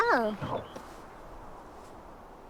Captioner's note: horse snorts